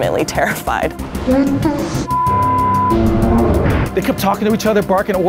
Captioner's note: beep